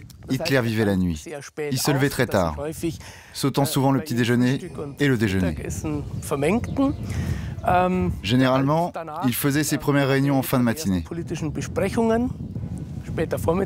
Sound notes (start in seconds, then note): 4.0 German spoken audio